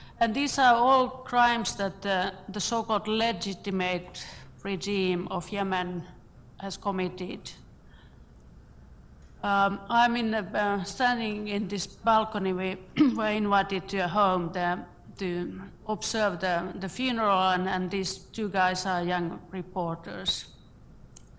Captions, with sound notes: These are all crimes which the so-called (foreign words) regime of Yemen has committed. I'm standing in this balcony (voice is muffled), observe the funeral and these two guys are young reporters.